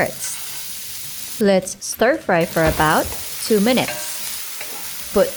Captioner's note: oil sizzling